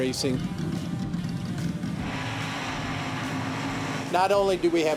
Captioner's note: engine running